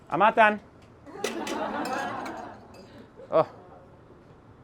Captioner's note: audience laughter